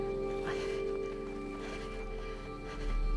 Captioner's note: panting